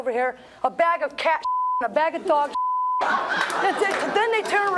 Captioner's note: audience laughs